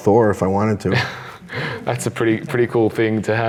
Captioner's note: laughs